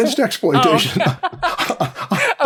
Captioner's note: laughter